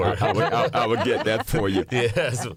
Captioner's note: laughter